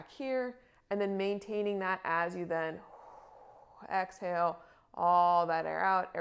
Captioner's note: exhales